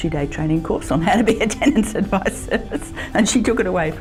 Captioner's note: laughing